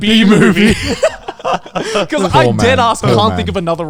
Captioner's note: everyone laughs